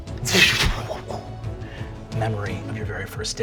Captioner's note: tense music; whooshing